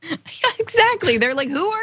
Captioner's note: laugh